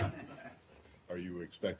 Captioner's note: laughter